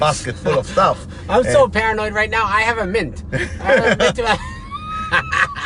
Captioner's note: laughs